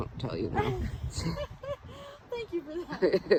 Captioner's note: laughing